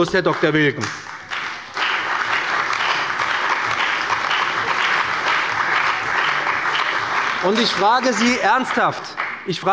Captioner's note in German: Beifall bei dem BÜNDNIS 90/DIE GRÜNEN und der CDU